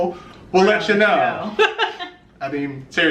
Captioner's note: laughs